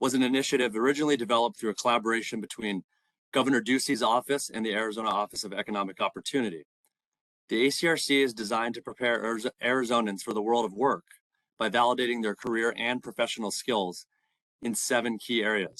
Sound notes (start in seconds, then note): none